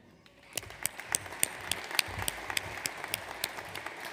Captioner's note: audience applauds